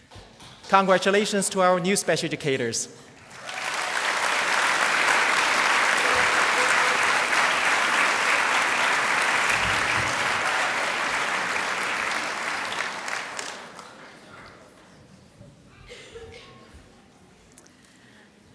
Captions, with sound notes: Congratulations to our new special educators. (applause)